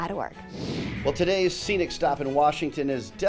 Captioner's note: screen whooshing